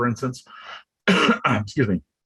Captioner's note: coughs